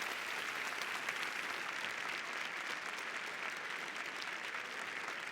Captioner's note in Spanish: Aplausos